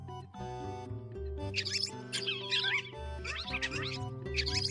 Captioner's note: squeak